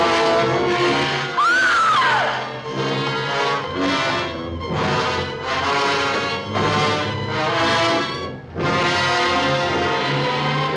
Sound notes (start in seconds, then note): 1.3 screams loudly; 7.6 suspenseful music